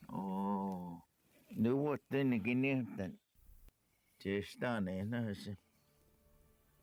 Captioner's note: Spoken Cherokee